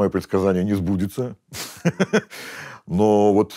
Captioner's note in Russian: смеется